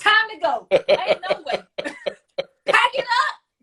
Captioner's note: laughs